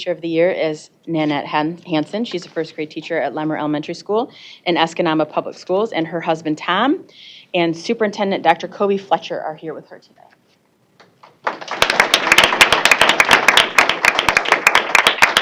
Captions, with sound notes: OF THE YEAR IS NANETTE HANSON. SHE'S A FIRST-GRADE TEACHER AT LEMMER ELEMENTARY SCHOOL IN ESCANABA PUBLIC SCHOOLS, AND HER HUSBAND, TOM, AND SUPERINTENDENT DR. COBY FLETCHER ARE HERE WITH HER TODAY. [ APPLAUSE ]